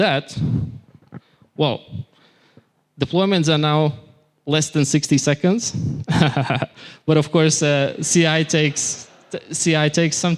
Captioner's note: laughter